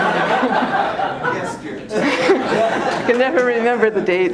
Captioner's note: laughter